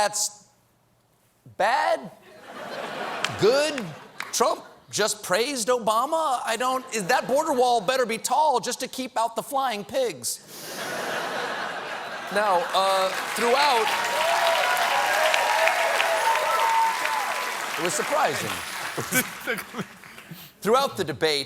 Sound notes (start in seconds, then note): 2.2 laughter; 10.7 laughter; 12.5 cheers and applause